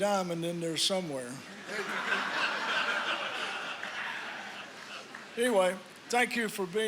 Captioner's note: laughter